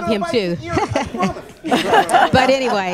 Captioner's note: laughter